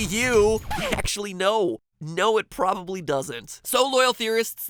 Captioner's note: disk scratch